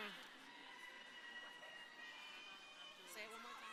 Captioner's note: crowd cheering